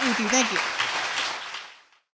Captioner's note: applause